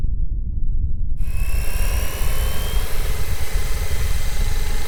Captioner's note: drone whirring